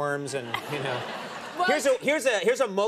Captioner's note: audience laughing